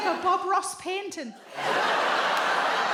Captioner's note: audience laughs